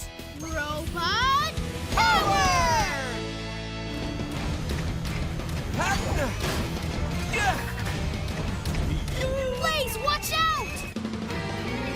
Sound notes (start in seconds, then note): 5.4 grunting; 8.8 robot